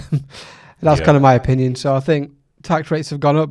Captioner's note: laughs